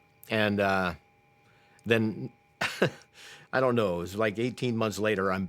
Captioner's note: chuckles